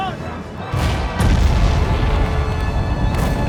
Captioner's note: loud boom; weapon blasts; tank machine gun booming